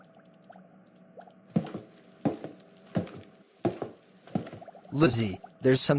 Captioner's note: footsteps